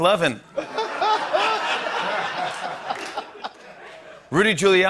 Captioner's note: laughter